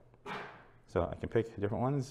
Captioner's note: sneeze